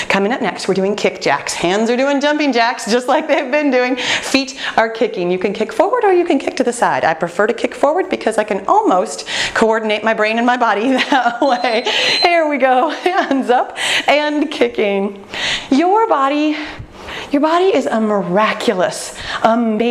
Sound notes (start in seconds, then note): 11.0 laughs; 11.3 timer beeping